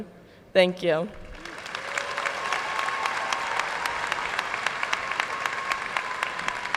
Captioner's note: audience cheering and applauding